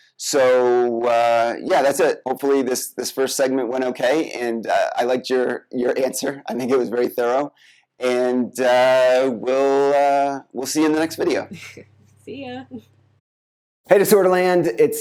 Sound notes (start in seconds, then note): 11.2 laughs